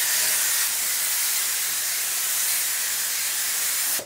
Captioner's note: hiss